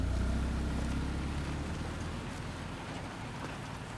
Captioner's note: car leaving